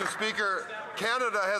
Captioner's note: applause